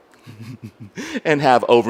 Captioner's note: laughs